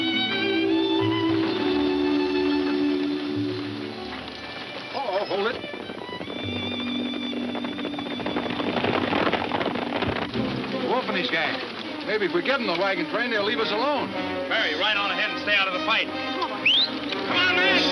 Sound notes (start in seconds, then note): 4.3 horses gallop